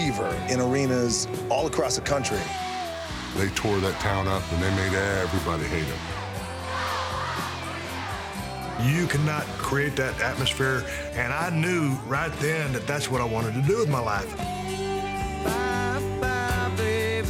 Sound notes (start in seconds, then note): 6.3 crowd cheering